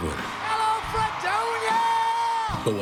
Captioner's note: crowd applauding